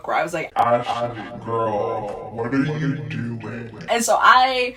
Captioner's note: slowed down, deeper pitch